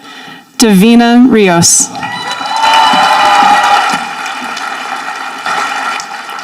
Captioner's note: audience applauding